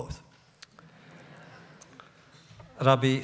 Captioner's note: laughter